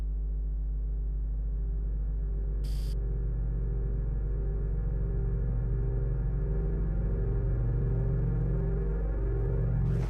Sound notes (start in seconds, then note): 2.7 static